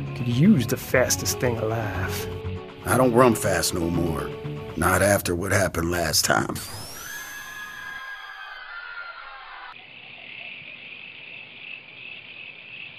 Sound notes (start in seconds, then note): 6.6 sonic whirring; 6.7 people screaming; 9.9 crickets chirping